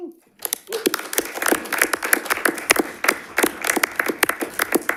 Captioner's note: audience applauds